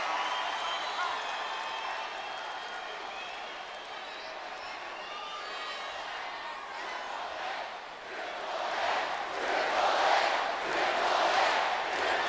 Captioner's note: applause